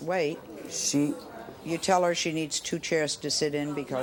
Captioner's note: audience murmurs